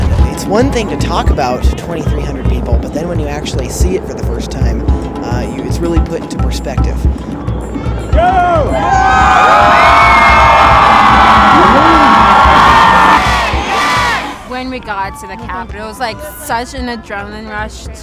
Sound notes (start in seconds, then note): 9.5 cheering; 12.8 chanting